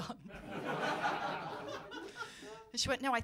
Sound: laughter

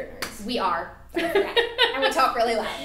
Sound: laughing

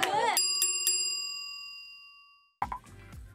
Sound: bell ringing

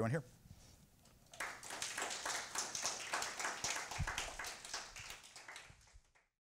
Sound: applause

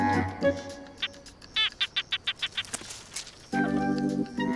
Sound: gecko chirping

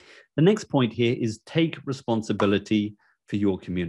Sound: air popping

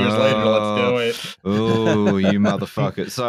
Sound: laughter

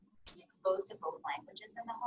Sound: voiceover

